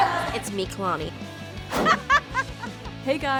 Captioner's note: laughs